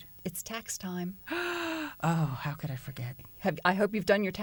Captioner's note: gasps